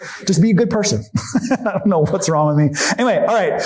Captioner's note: chuckles